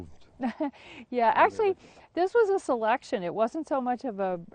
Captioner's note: laughs